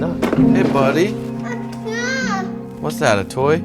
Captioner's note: toddler sounds